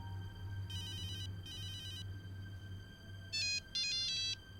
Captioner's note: phone beeping